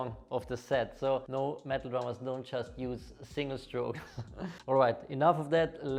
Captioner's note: laughs